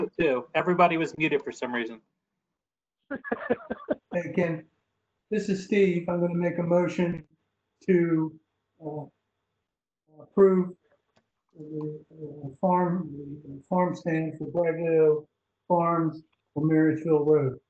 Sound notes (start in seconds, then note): 3.1 laughs